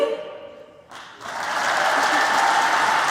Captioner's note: applause